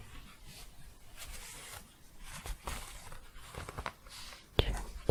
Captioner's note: shuffling and scratching